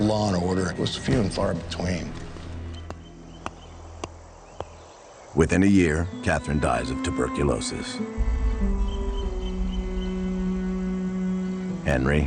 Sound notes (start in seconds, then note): 3.4 rock banging; 8.8 somber music